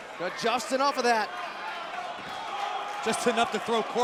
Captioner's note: crowd cheering